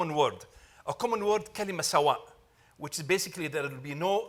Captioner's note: speaking Arabic